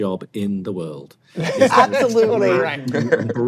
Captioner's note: laughs